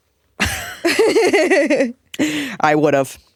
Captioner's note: laughing